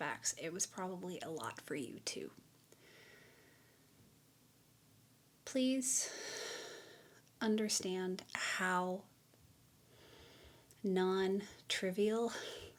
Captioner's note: sigh